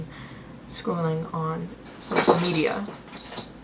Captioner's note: Fauna throws a toy that jingles in the background